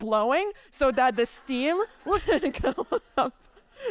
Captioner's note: chuckles